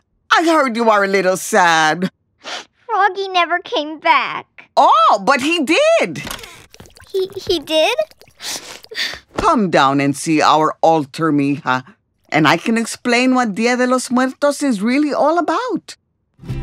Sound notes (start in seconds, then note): 2.4 sniff; 8.4 Adelaide sniffs, sighs